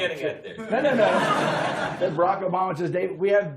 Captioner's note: laughter